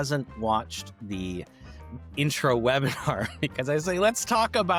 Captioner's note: laughs